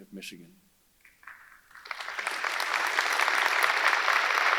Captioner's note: audience applauding